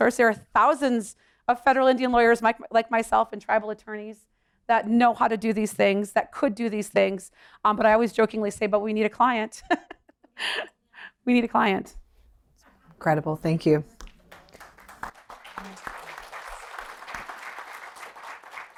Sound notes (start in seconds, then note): 9.6 laughter; 14.0 applause